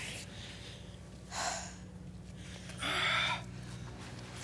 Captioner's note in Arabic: تزفر بعمق; تزفر جين بعمق